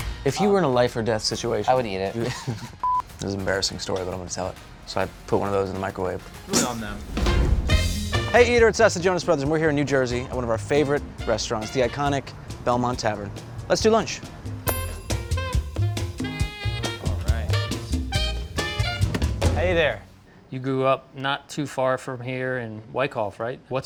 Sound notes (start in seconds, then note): 0.0 upbeat rhythmic music; 2.2 laughing; 6.6 imitating food exploding; 14.6 lunch bell ringing; 14.6 upbeat jazzy music